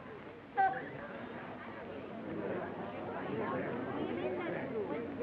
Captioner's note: chatter